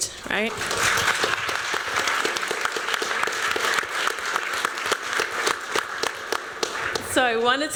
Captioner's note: applause